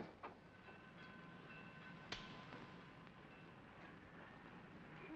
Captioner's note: station bell rings in distance